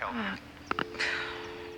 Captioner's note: phone disconnects